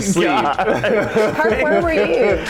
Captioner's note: laughing